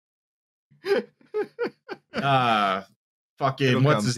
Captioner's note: laughs